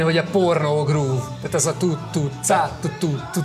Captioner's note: imitates groove music